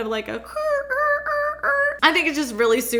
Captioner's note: screeching